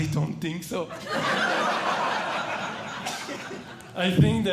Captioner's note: audience Laughing